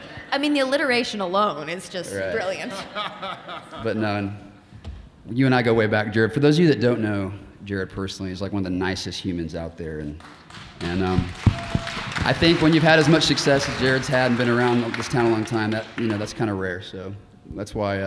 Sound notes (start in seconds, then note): 2.6 Jared laughing; 10.2 audience applauding